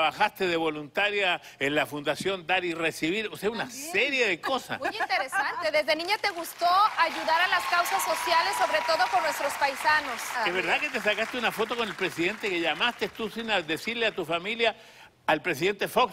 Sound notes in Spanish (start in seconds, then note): 4.8 Ella ríe; 10.8 Aplausos